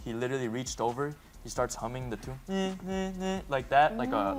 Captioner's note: hums